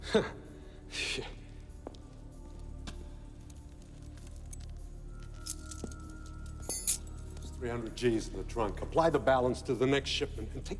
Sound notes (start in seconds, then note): 0.3 laughs nervously; 6.0 keys jingle